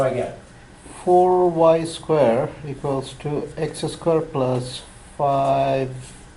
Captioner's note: voiceover